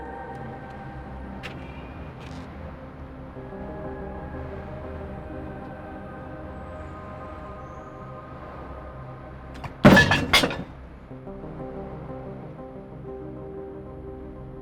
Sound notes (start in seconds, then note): 9.6 bottle clanks